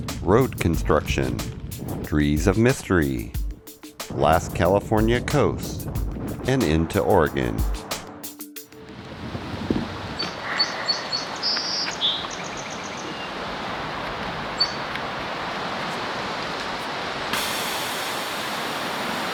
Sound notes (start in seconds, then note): 10.0 birds